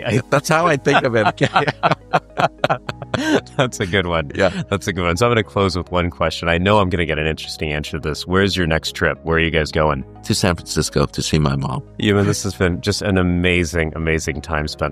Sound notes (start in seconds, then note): 0.7 laughter